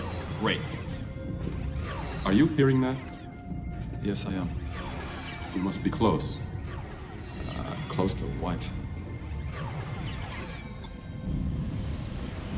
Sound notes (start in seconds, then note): 2.0 pulsing